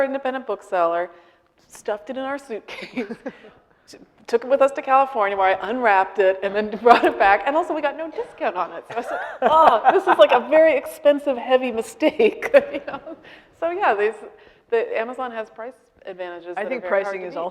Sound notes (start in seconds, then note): 9.0 laughing; 13.0 laughing